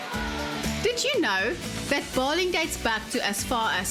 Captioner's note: narrating